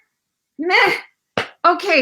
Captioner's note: sighs